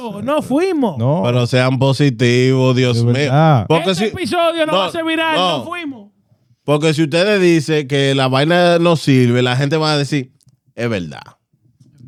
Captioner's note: speaking In Foreign Language